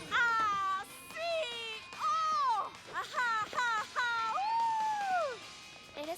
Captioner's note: happy shouts and squeals